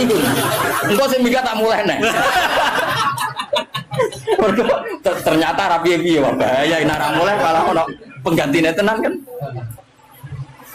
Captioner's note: laughs